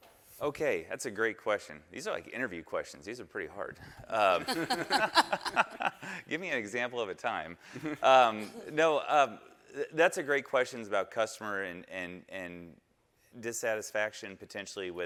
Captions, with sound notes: - Okay, that's a great question. These are like interview questions. These are pretty hard. (panelists laughing) Give me an example of a time. (panelists chuckling) No, that's a great question is about customer and dissatisfaction potentially